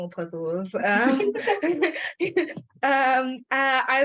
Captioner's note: they both laugh